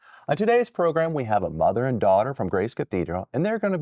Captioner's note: none